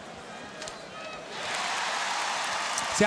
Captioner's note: crowd cheers